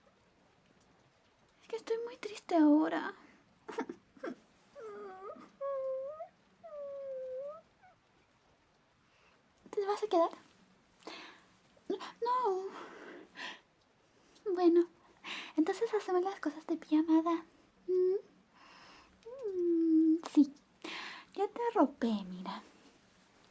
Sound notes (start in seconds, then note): 4.7 puppy cry